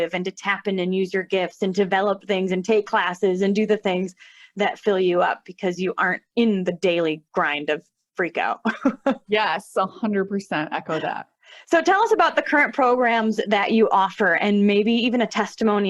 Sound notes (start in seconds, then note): 8.4 chuckles